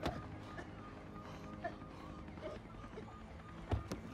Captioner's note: gagging